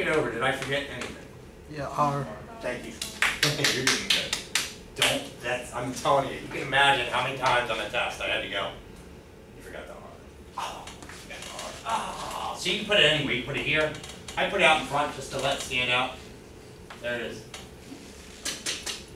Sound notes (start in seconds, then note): 3.0 clapping